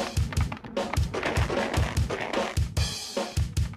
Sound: footsteps

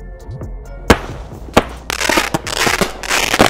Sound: fireworks Popping; fireworks crackling

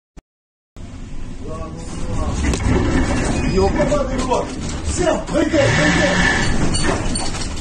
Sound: ship cracking large sound

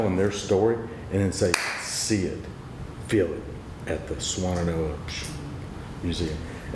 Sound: claps

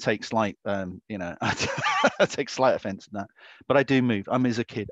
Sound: laughs

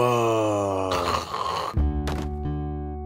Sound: Blue snores

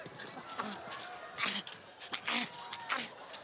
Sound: groaning

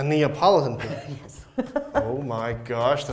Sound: laughing

